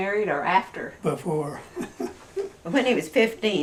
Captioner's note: laughs